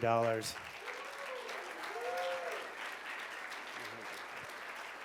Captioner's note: cheers and applause